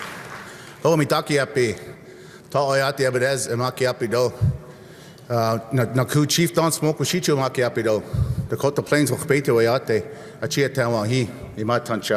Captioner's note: cheer and applause